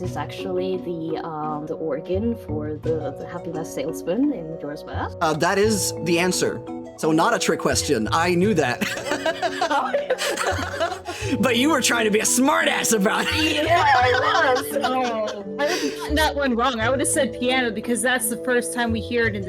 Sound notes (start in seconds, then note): 8.7 all Laughing